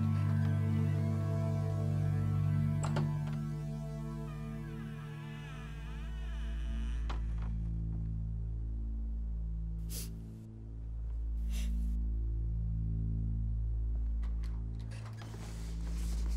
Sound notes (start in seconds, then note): 2.6 door creaking; 6.5 suspenseful music; 9.8 Ellie sniffing